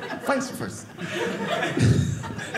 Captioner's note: audience laughing